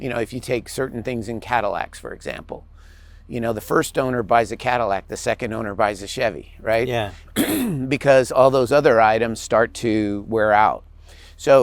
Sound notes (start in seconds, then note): 7.0 clears throat